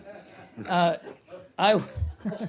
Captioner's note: laughter